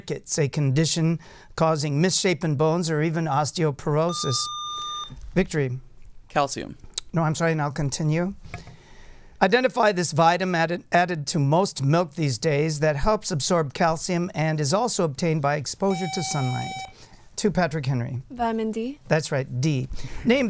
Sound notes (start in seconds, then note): 4.1 buzzer; 15.9 buzzer